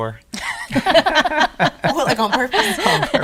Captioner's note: laughing